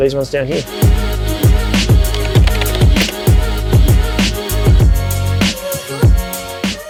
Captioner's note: keyboard clicking; upbeat music